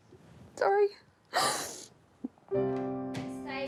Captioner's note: sobs